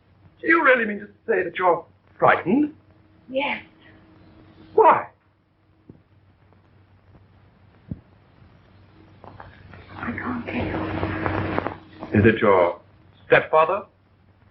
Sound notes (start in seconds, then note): none